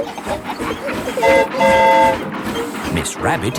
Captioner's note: train whistle toots